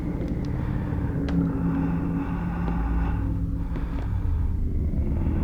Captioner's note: man breathing